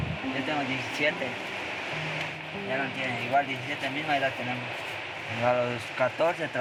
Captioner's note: journalist speaking in foreign language; teenager speaking in foreign language